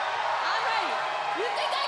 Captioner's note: cheers and applause